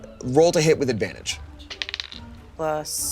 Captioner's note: die rolling